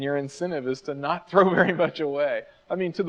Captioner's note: chuckles